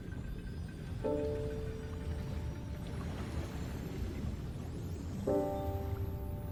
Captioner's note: somber music; waves splashing